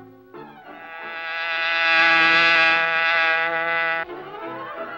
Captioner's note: car engine buzzing; suspenseful music